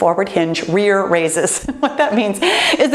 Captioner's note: laughs